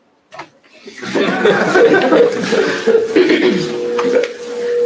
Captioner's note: laughter